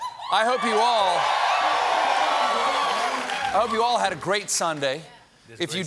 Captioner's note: cheers and applause